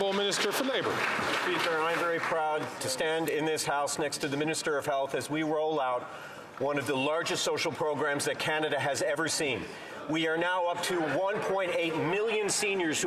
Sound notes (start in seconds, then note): 3.8 some Applause